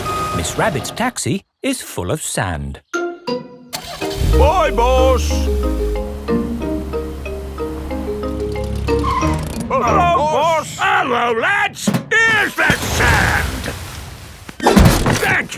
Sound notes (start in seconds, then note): 3.7 car engine starts; 9.0 brakes squeal